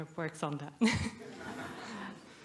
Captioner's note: laughter